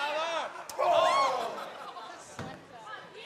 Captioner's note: crowd cheering